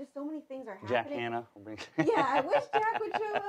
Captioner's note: laughs